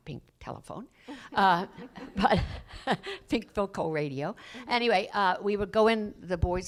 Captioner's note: laughs